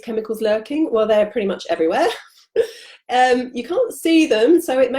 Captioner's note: laughs